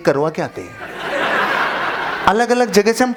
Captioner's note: laughing